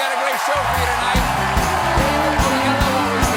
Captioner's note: cheers and applause